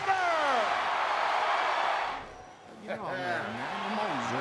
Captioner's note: crowd cheering